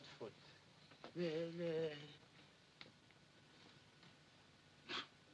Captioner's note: Barber stammers